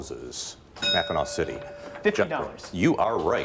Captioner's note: bell rings